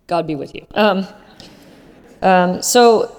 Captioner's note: laugh